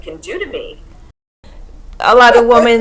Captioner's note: laughs